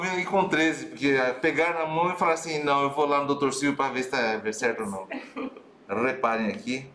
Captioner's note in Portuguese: risos